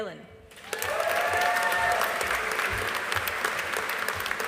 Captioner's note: audience applauding